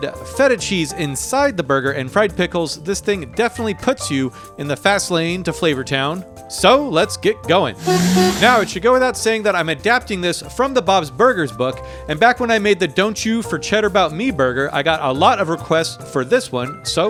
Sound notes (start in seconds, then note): 7.8 horn hooting